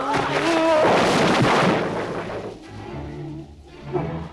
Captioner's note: Torente shouts; crates clatter